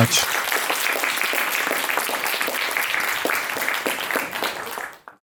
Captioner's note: audience clapping